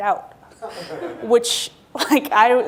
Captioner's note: laughing